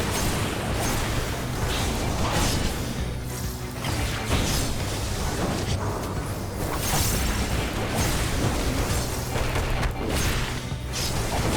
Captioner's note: explosions